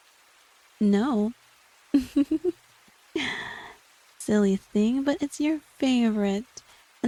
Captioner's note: more giggling